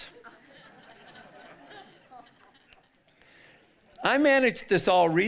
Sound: audience laughing

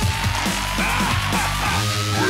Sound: laughs

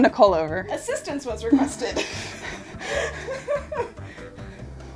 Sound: laughs

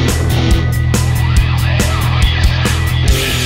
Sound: audio in reverse

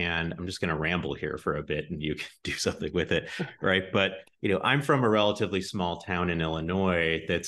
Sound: giggles

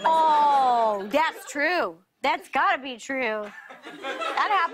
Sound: laughter

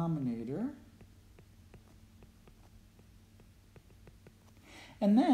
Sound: writing

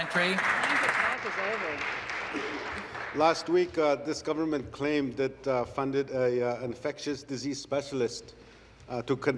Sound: applause

